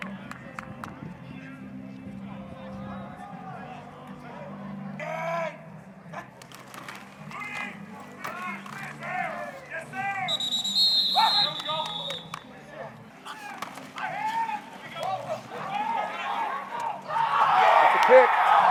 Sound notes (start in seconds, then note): 5.0 qb shouting play; 10.2 whistle blowing; 18.5 cheering